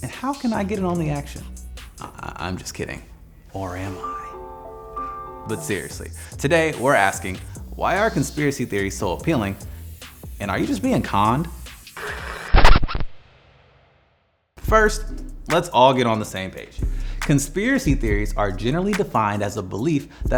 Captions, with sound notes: and how can I get in on the action? I'm just kidding. Or am I? (suspicious music) But seriously, today we're asking, why are conspiracy theories so appealing? And are you just being conned? (radio static blares) (squeaking resounds) First, let's all get on the same page. Conspiracy theories are generally defined as a belief